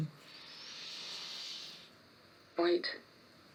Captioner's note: inhaling deeply